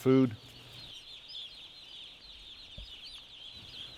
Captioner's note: chicks chirping